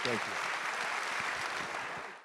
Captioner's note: audience applauding